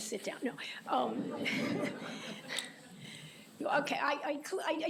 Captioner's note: laughter